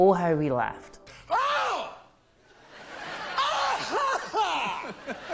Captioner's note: laughing manically